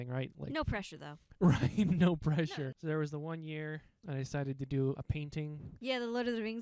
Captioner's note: laughing